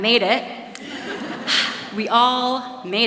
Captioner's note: laughs